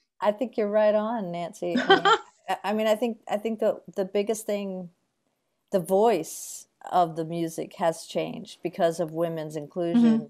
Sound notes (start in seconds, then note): 1.7 laughs